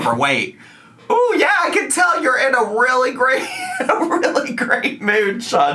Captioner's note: laughs